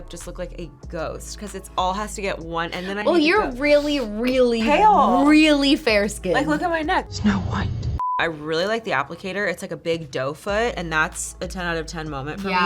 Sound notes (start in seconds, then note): 8.0 beep